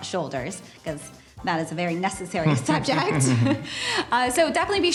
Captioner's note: both laugh